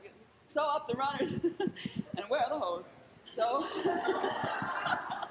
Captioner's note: laughing; laughs